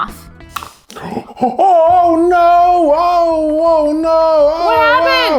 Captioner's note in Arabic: لهيث